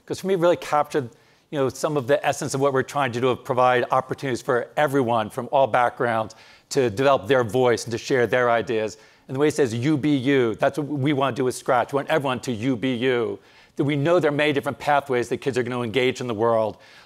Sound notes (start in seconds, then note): none